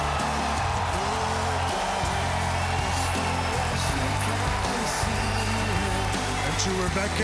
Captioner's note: crowd cheering